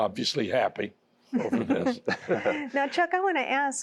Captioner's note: laughter